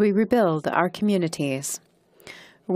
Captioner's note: speaking in French